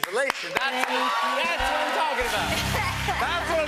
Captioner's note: cheers and applause